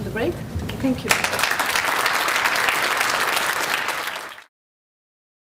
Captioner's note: applause